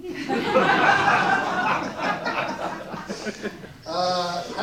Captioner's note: audience laughs